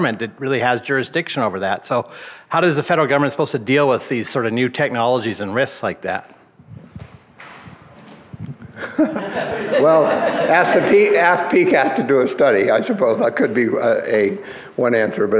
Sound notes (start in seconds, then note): 8.7 laughs